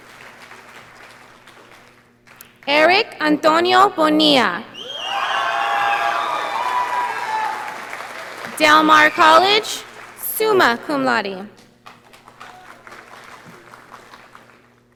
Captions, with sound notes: Eric Antonio Bonilla. (audience applauding) Del Mar College, summa cum laude.